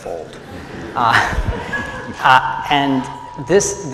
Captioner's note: laughter